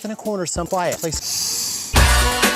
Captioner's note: sniffies